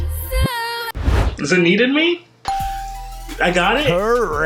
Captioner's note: bell ringing